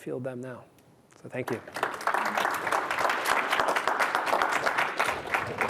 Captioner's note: audience applauding